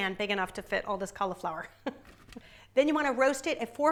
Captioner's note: chuckles